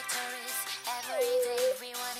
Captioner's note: Barney whining